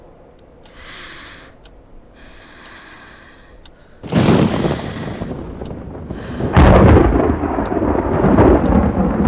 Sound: gasping

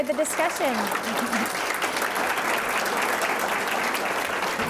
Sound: audience applauding

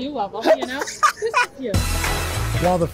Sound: laughter

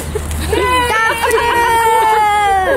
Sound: kids cheer

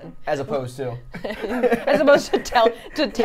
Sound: laughs

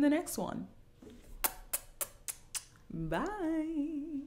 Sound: kisses

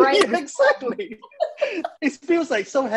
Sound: laughs

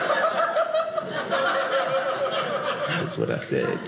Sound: audience laughing

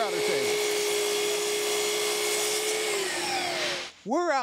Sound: saw revving

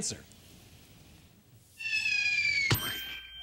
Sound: pigeon squeaking

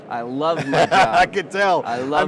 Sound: laughing

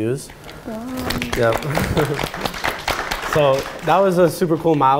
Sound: audience applauding

